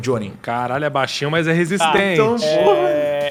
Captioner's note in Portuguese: risada